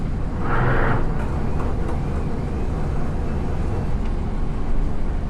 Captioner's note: wind